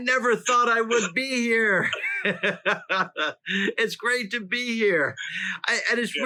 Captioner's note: laughs